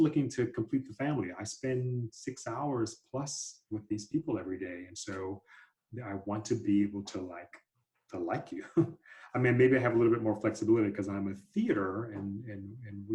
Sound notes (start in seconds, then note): 8.6 laughter